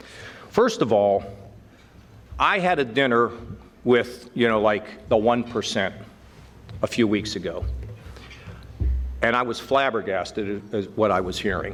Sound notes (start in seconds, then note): none